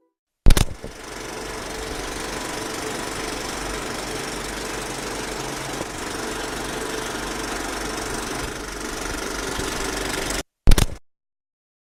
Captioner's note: film noise